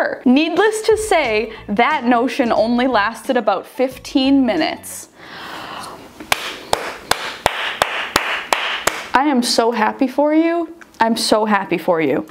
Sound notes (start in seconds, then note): 6.3 claps